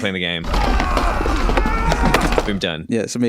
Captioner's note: fighting noises